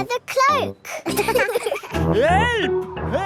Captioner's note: laughing